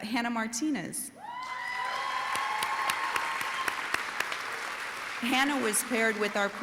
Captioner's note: audience applauding and cheering